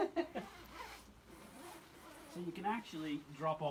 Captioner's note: laughs; zipper zips